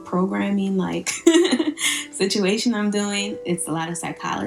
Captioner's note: laughs